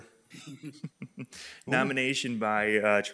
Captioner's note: chuckles